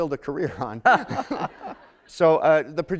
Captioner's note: laughter